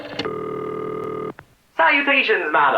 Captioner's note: rotary dialing; ringing